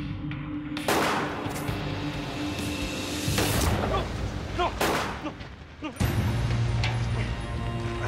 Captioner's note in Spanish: Disparos